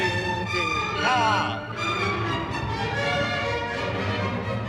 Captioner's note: exclaiming